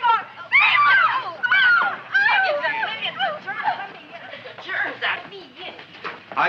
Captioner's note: girls screaming; chattering